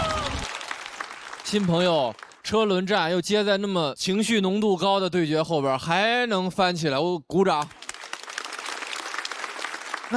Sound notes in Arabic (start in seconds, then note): 7.5 تصفيق